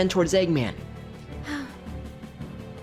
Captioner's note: sighs